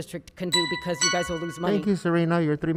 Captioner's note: chiming